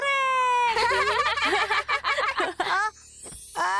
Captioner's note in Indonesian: semua tertawa